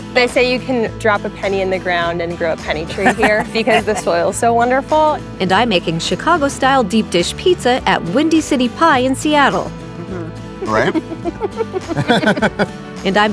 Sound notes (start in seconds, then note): 10.6 giggling; 10.6 laughing; 10.6 babbles